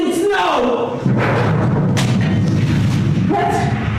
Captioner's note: closer explosion